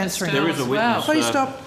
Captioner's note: multiple people talking